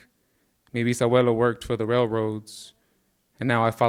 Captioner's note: speaking in Spanish